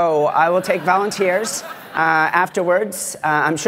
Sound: laughter

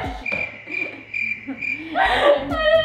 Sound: crickets chirping

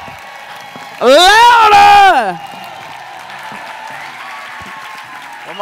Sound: cheers and applause

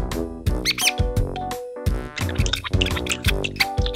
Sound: mouse squeaks

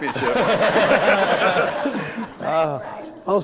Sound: laughter

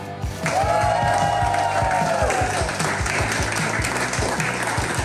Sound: crowd clapping and cheering

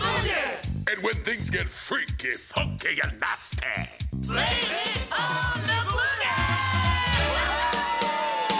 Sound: they cheer him

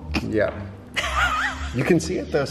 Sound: laughing

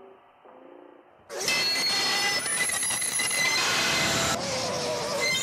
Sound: motor buzzing; loud, grating screech; distorted shouting

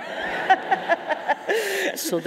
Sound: laughing

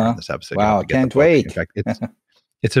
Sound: murmurs

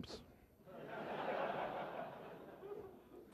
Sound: laughter

